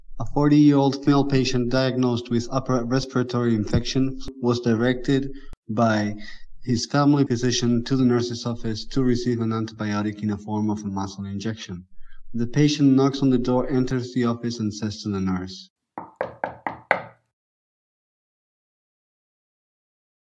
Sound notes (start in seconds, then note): 16.0 knock sounds